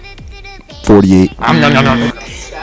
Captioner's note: buzzer buzzes; interviewer growls